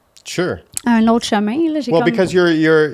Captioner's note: in french